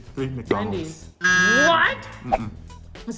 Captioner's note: sound of buzzer